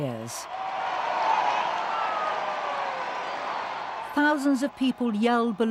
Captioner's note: crowd cheering